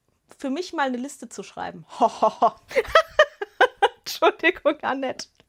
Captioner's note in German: Gelächter